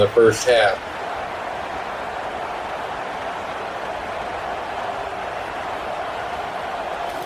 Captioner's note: crowd Noises